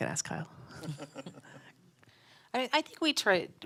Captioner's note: laughs